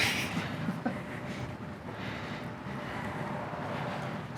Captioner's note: laughs